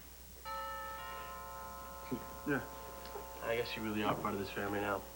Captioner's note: doorbell rings